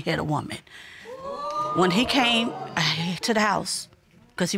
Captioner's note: audience exclaiming